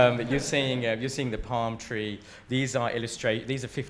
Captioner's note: attendees laugh